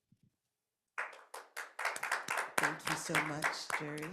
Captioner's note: attendees clapping